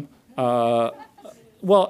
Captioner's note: audience laughs